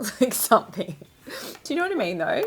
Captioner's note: laughs